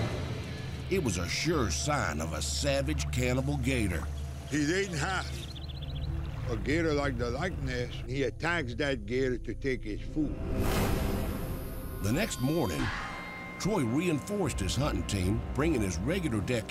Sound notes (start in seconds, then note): none